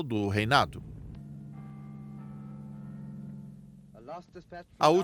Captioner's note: bells ringing